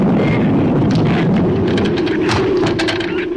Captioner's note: branch cracks; branch thuds